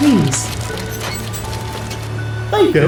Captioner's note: tank treads rolling and then stops